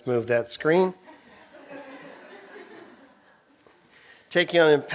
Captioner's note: laughter